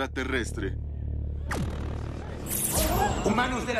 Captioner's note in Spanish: sonido de lasers proyectandose